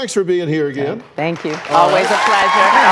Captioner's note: applause